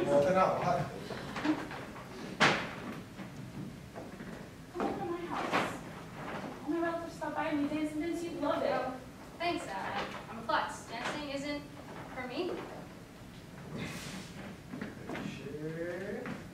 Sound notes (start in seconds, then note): 2.5 bag bangs on chair